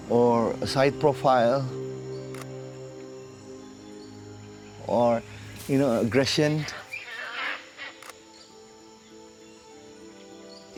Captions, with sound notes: Or a side profile. [camera clicks] Or, you know, aggression. [calls] [camera clicks]